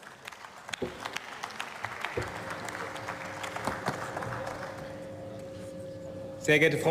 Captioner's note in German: Beifall